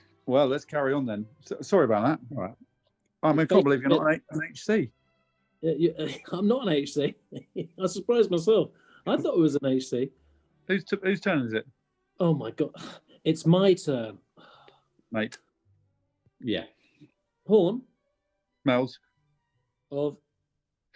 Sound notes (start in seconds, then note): 5.7 chuckling; 12.7 irritated scoff